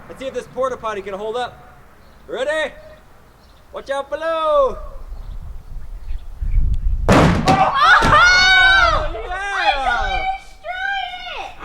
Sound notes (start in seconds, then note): 5.6 wind; 7.1 crash; 7.4 screaming